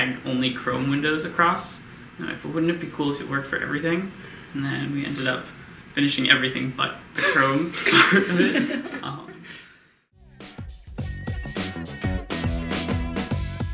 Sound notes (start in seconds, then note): 7.2 group laughs; 10.2 funky dance music